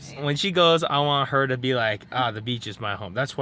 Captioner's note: none